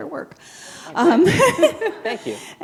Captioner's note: chuckle